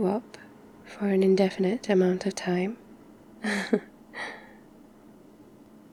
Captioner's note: laughs